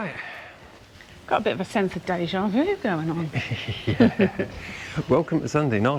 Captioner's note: laughter